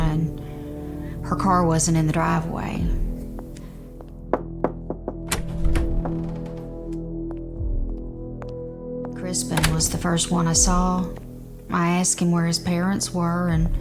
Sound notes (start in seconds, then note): 4.3 door knocking